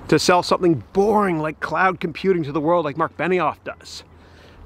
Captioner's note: none